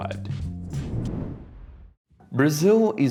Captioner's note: air whooshing